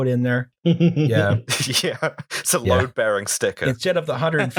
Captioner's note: laughter